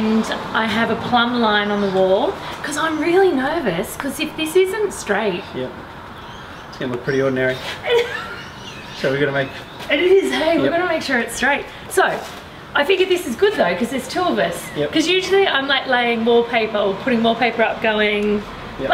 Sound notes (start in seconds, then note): 7.5 laughs